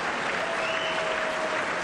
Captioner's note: applause